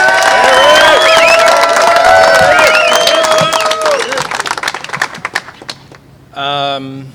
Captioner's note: applause